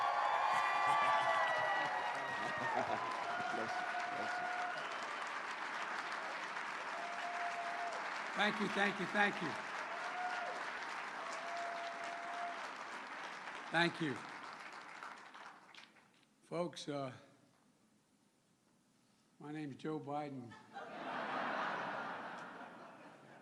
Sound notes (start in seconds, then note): 7.4 cheers and applause